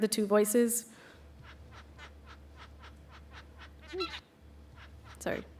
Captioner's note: bird singing